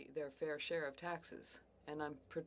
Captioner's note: speaking French